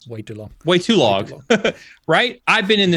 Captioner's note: laughs